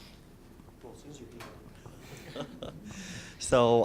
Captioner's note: laughter